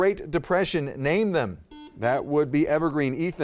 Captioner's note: buzzer goes off